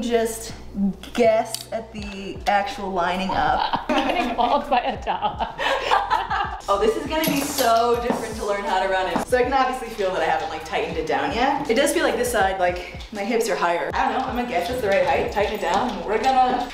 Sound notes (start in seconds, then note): 3.2 laughs